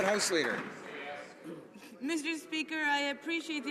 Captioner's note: some Applause